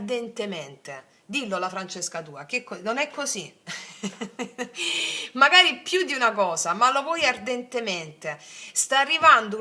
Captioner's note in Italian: risate